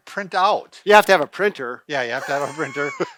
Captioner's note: laughs